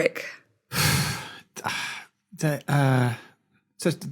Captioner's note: sighs